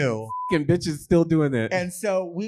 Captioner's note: beep